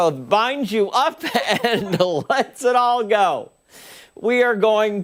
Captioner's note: laughter